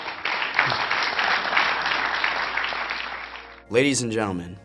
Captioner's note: applause